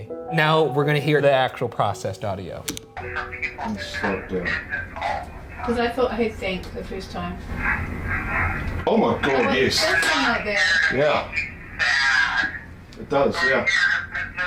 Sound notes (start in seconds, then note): 2.6 key clicks; 5.2 recording playing